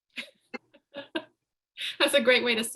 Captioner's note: laughing